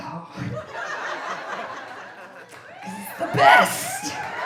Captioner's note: audience laughing